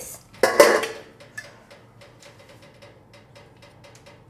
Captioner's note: lid clanging